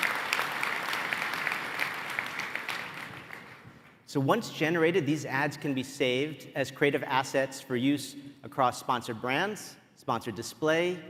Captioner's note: applause